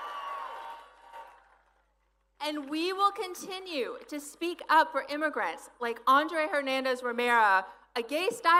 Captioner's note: applause